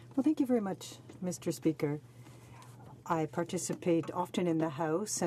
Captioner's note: speaking French